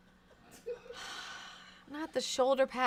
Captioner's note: sighs